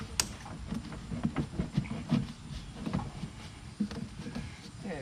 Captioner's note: plastic rustling